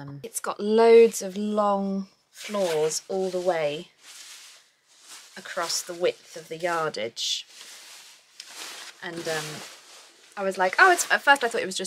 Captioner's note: silk rustling